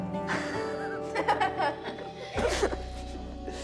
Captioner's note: laughter